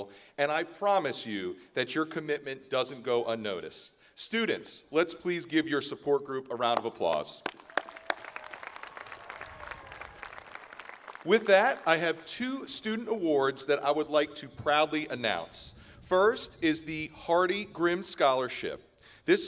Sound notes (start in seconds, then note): 7.3 graduates applauding